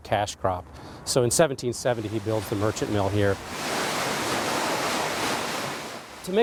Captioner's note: water splashing